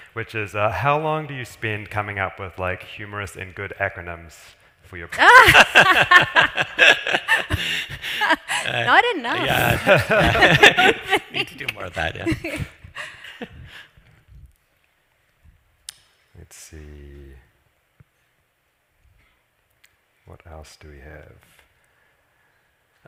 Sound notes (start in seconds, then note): 5.1 laughs; 12.6 laughs